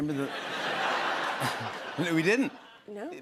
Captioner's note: laughter